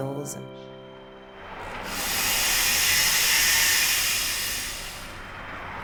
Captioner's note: power tool whirring